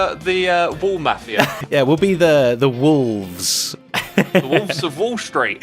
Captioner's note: laughs